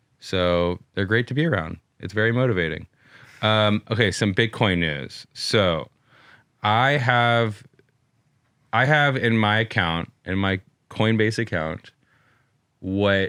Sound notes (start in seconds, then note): none